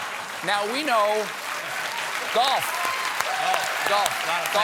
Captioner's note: applause